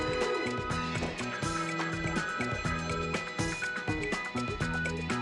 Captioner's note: phone ringing